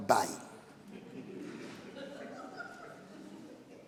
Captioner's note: laughing